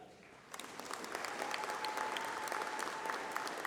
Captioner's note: applause